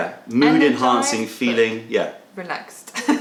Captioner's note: laughter